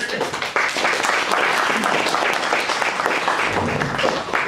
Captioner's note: audience applauds